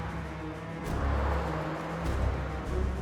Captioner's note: cars riding